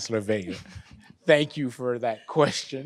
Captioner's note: laughs